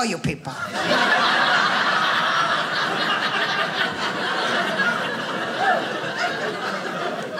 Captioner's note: audience laughing